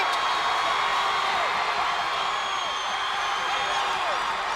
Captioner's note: audience cheers